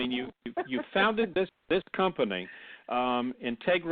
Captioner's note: laughs